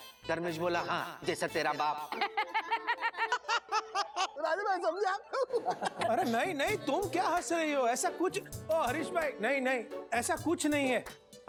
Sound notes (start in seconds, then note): 2.0 laughs